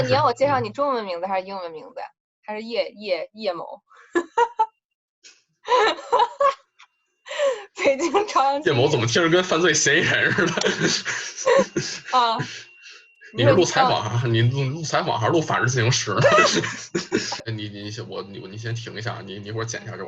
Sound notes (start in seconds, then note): 5.7 laugh; 10.6 laugh